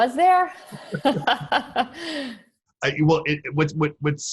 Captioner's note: laughing